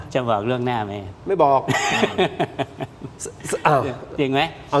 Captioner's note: laughs